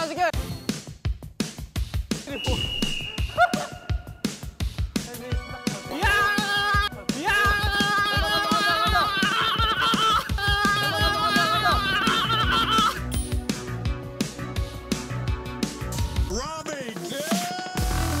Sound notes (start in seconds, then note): 10.6 sprinting